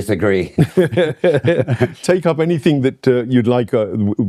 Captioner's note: laughter